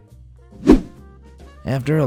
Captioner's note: whoosh